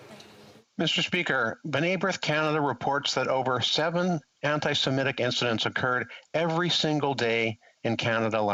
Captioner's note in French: voix de l'interprète